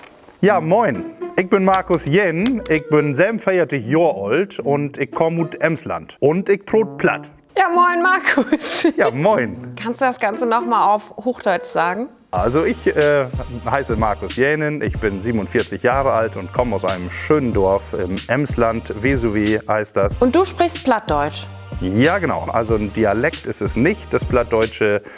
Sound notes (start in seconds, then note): 21.0 low German